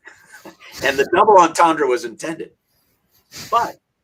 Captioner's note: speaks in Yiddish